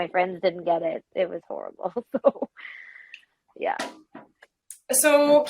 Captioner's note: laughs